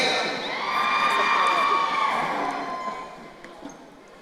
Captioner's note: crowd cheering